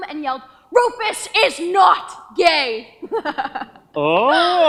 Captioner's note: giggles